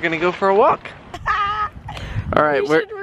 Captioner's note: laughing